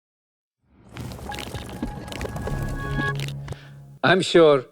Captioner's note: transition sound effect